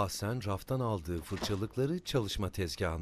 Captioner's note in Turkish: Kapı kapanma sesi